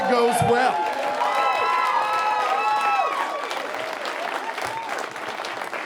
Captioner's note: audience cheering and applauding